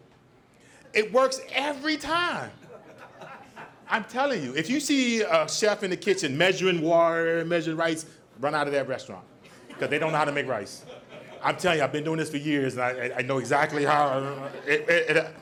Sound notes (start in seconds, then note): 2.4 audience laughs; 9.5 audience laughs